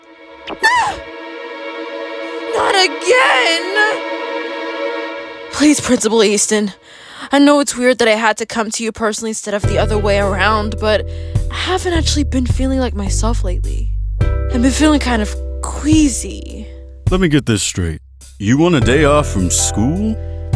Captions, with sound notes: (Bailey exclaims) Not again! Please, Principal Easton. I know it's weird that I had to come to you personally instead of the other way around but I haven't actually been feeling like myself lately. I've been feeling kind of queasy. Let me get this straight, you want a day off from school?